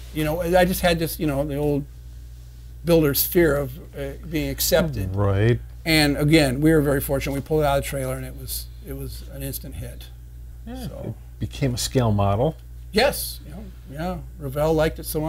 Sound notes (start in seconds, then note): none